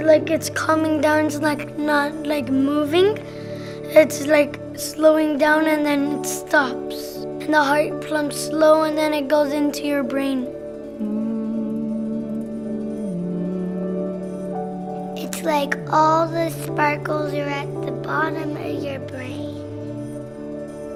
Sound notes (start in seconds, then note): 16.8 music, sounds of deep breaths